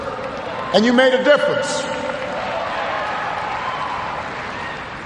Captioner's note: cheers, applause